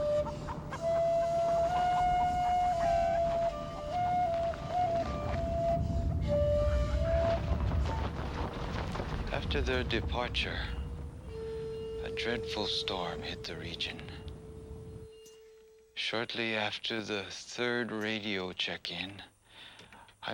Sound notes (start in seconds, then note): 5.2 thunder rolling